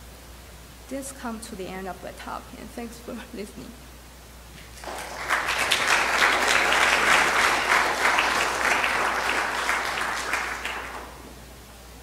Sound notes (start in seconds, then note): 4.7 clapping